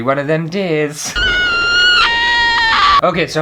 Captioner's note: screaming!!